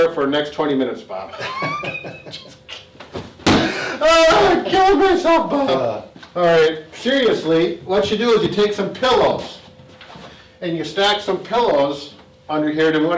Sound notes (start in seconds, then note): 1.3 laughs; 3.1 smacks table